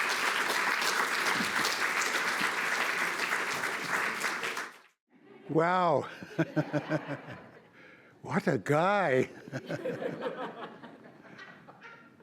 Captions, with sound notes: - Wow. (chuckles) What a guy. (audience laughs)